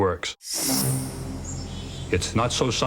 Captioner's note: whoosh